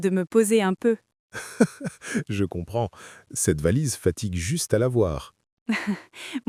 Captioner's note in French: rire; rire